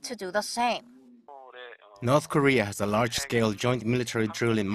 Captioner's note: Korean